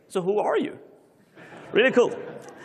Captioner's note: laughter